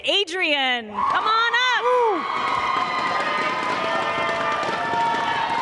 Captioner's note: cheers and applause